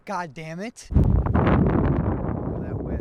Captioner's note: strong wind blows